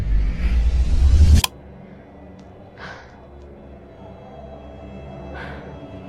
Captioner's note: light switch flicking